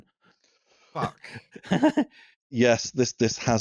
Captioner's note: laughs briefly